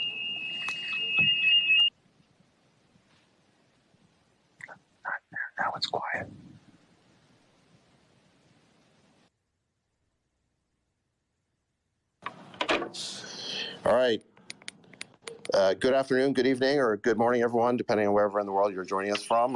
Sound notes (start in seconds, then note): 5.8 silence